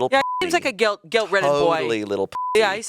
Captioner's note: beep; beep